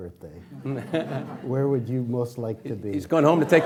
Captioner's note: laughing